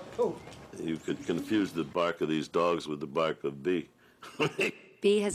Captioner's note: laughs